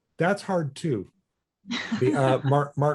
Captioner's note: laughs